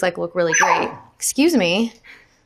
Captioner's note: Pepper barks